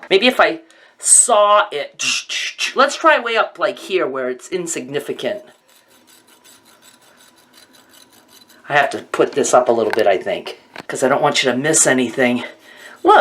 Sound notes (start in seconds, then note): 6.7 hair rustling